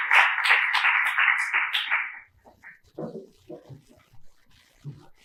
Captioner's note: applause